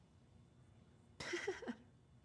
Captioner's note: laughs